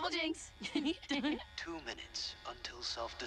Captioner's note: laughter